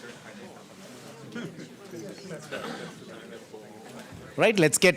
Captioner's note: background chatter